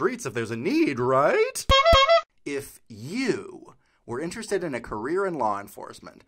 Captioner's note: honk Honk